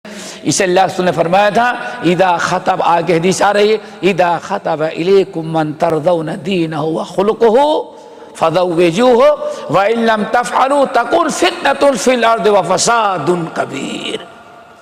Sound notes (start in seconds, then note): 5.7 in Arabic